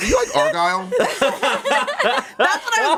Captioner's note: everyone laughs